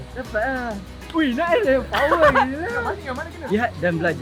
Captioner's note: laugh